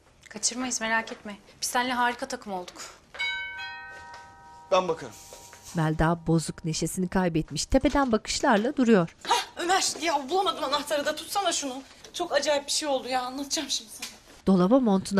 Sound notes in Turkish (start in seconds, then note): 3.1 Kapı zili sesi; 7.6 Kapı açılma sesi